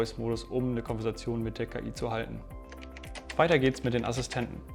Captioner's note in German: Tastaturgeräusche